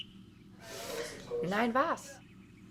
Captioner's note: breathes in